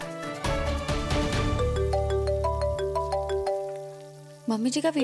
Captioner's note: phone ringing